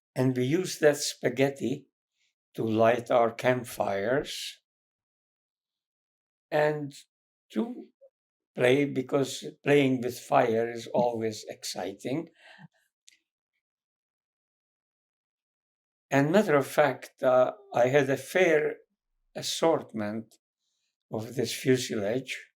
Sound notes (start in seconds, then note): 10.9 laughing